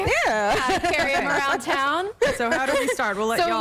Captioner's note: laughter